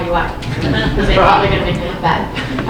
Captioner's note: audience laughing